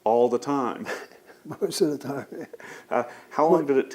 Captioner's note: laughs